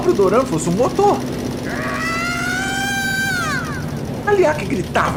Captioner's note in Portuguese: Grito ao longe